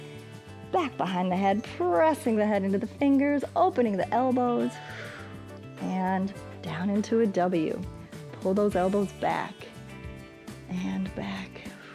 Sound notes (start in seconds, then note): 4.7 exhales; 11.6 exhales